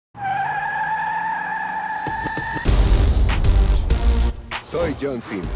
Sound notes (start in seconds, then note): 1.8 tires squealing; 2.0 hip-hop music